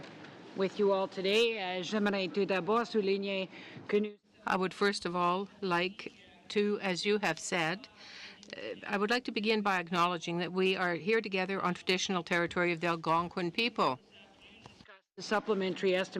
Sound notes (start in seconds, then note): 6.7 speaking french